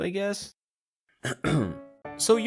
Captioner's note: clears thrOAT